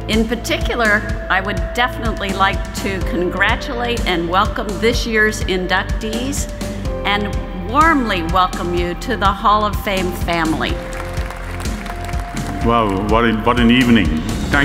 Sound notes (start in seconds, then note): 10.7 applause